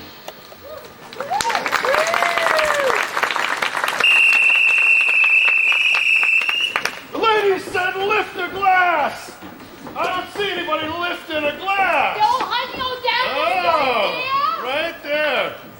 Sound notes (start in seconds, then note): 1.0 audience applause; 3.9 whistle blows